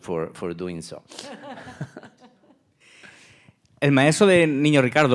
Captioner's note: laughing; speaking in Spanish